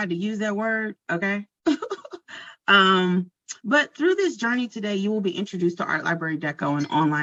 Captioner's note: chuckles